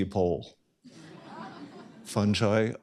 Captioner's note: laughter